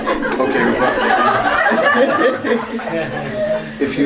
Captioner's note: laughter